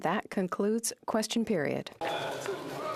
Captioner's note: speaking in French